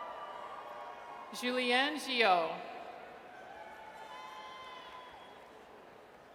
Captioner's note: audience cheers; audience cheers